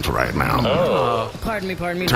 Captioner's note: everyone makes impressed noises